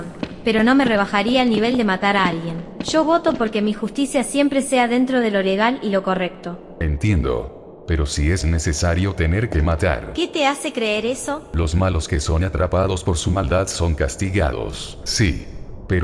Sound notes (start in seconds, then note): none